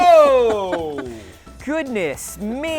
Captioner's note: laughs